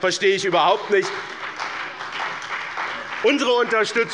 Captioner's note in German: Beifall bei dem BÜNDNIS 90/DIE GRÜNEN und der CDU